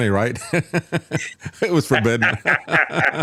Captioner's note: laughing